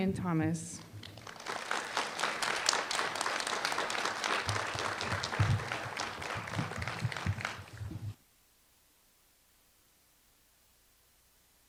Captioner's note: applause